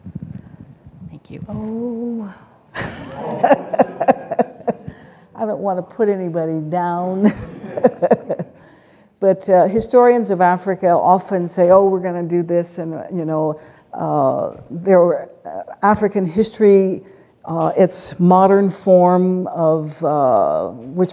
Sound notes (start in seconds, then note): 2.7 laughter